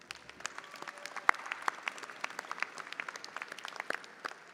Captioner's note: audience applauding